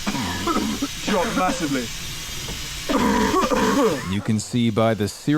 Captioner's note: coughs